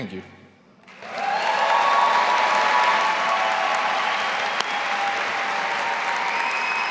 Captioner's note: audience applauding and cheering